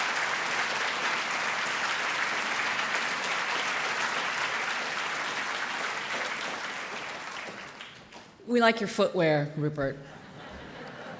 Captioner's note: applause